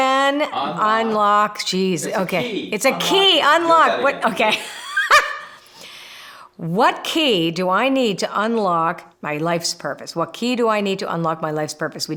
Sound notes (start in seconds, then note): 1.9 laughing